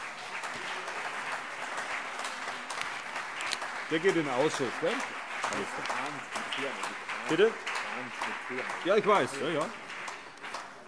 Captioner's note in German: Beifall CDU und BÜNDNIS 90/DIE GRÜNEN